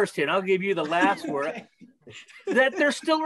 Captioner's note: chuckles